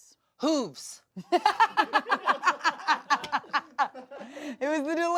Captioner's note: everyone laughs